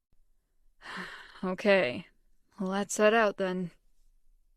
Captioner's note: sighs